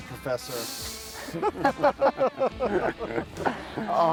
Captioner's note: laughter